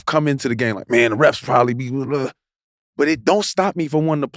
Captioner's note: grunts